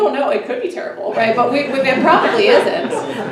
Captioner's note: everyone laughs